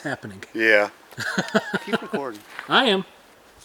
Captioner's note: laughs